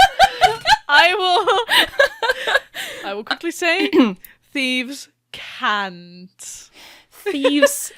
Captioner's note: laughing